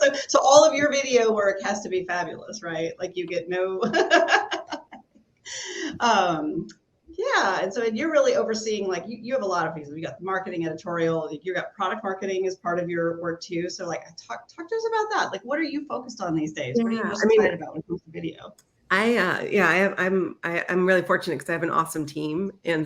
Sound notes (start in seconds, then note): 3.9 laughs